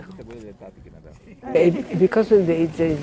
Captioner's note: crowd member speaking in foreign language